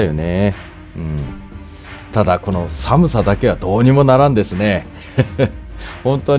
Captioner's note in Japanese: 苦笑